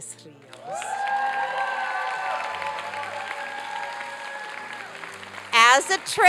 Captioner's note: applause and cheering